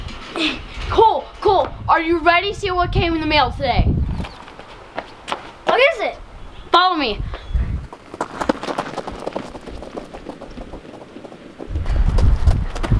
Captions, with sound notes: (grunting) - Cole! Cole! Are you ready to see what came in the mail today? (running footsteps) - What is it? - Follow me! (running footsteps)